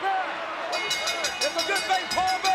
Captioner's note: bell ringing